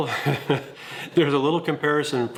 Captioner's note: giggles